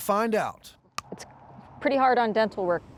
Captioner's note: crunch